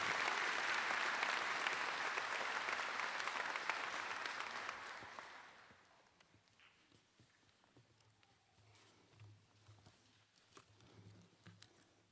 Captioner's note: applause